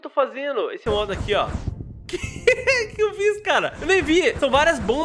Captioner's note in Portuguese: risos